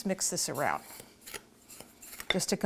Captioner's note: dry ingredients mixing